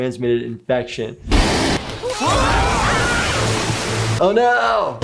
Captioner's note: gonorrhea growling; yelling